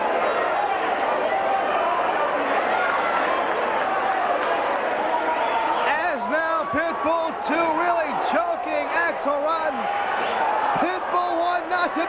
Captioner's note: crowd chatter